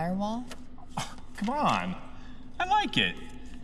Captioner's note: scoff